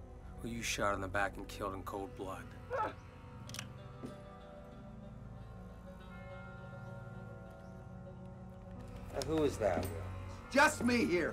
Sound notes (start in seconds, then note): 2.6 muffled cry